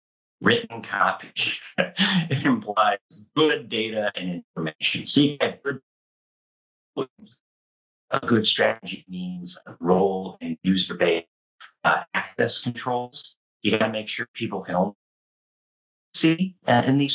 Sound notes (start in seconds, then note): 8.1 mic cutting; 13.7 mic cutting